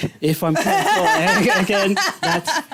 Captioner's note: laughter